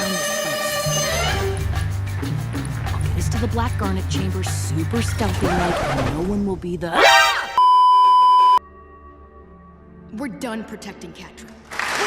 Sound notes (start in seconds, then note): 5.4 record scratch; 11.6 immense applause and cheering